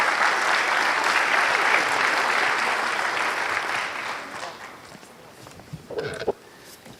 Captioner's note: applause